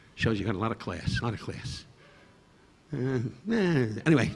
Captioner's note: Don humming